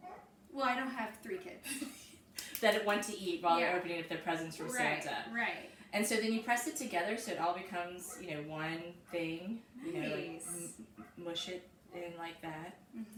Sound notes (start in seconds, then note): 1.6 chuckles